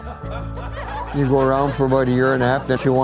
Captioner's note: people laughing